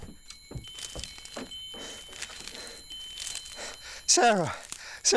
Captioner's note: chimes ringing